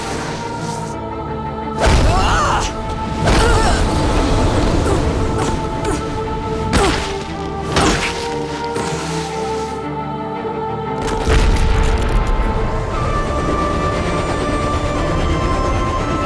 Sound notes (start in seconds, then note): 1.7 grunting